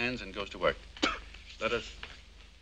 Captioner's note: spitting